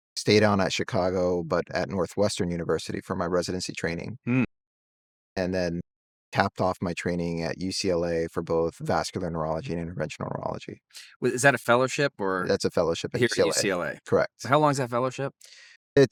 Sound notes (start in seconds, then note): 4.3 hums